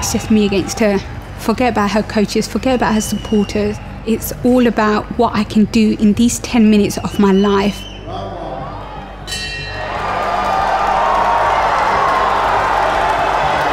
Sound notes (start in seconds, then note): 9.2 bell rings; 9.6 crowd cheers